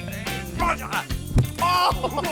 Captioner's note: laughs